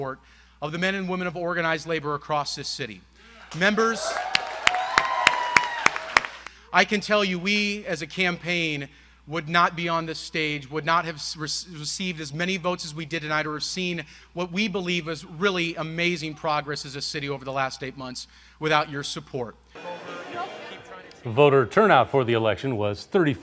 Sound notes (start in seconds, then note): 7.2 applause